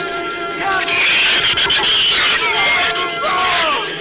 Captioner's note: shrews screech